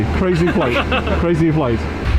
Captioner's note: crew members laughing